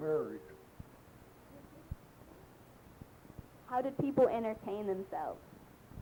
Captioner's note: pause